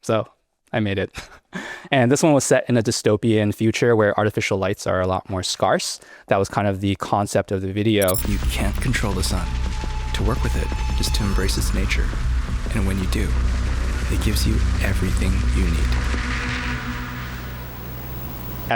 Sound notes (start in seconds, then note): 8.0 transition glitching; 16.4 suspenseful music